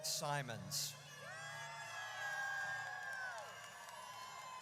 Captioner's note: audience cheers